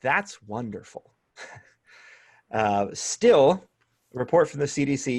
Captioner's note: laughter